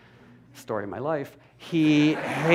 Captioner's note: laughter